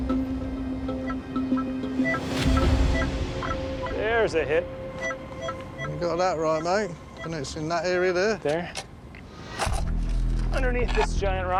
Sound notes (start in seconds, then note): 4.7 detector beeps